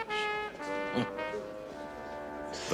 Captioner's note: chuckles